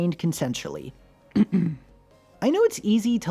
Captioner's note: clears throat